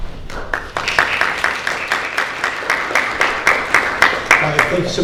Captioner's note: audience applauding